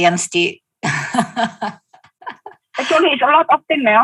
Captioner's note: laughing